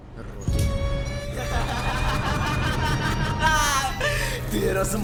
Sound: maniacal laughter

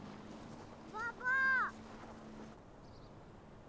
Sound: in Tajik

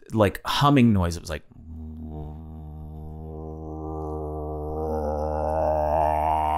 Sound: Glenn making a humming noise

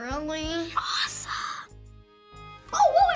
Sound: whispers

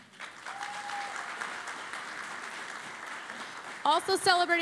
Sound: cheering and Applause

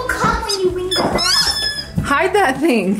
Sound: squeaky toy

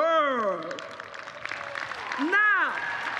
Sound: applause

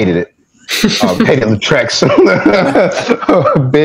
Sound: laughter

